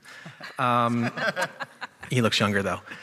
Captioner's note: chuckling